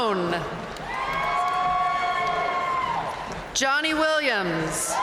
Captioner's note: audience cheering and applauding